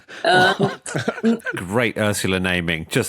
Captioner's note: crack up